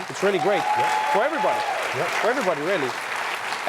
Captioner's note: applause and cheering